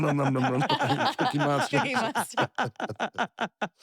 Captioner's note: laugh